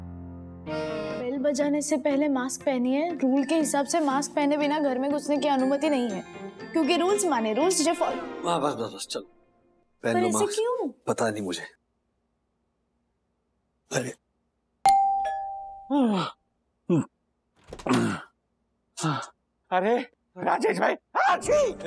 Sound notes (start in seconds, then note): 14.9 doorbell chimes; 15.9 yawns